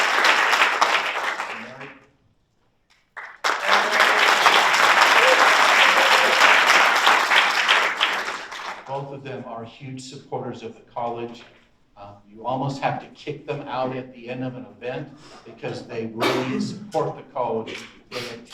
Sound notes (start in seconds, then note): 3.0 audience applauds